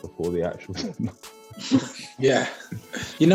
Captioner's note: laughing